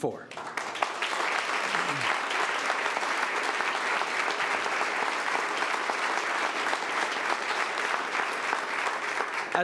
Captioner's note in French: Applaudissements